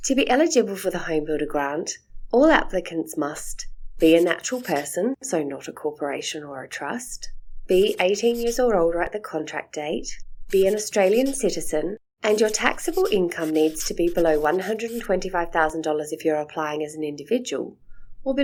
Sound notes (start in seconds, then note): 4.0 sound of a texta writing; 7.8 sound of a texta writing; 10.5 sound of a texta writing